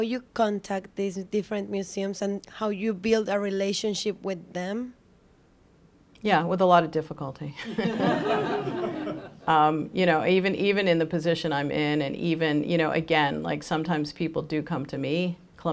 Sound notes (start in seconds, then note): 7.6 laughter